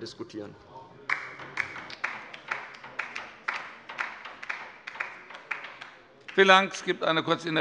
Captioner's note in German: Beifall bei der LINKEN